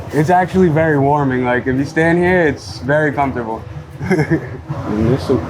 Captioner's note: chuckles